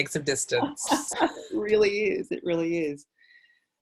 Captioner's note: laughs